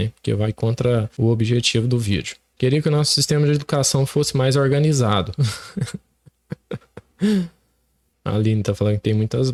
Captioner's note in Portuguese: risadas